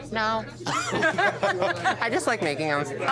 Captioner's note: laughs